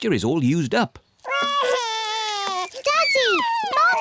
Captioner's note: wails